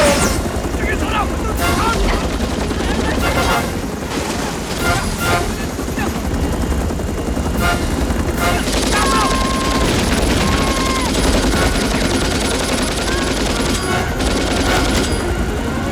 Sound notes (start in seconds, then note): 0.1 Korean; 3.2 Shouting In Korean; 8.3 Shouting In Korean; 12.5 shouts